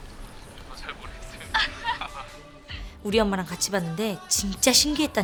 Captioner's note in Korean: 웃음